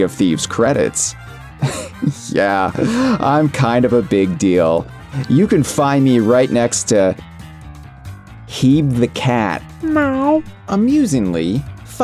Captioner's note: Heeb meows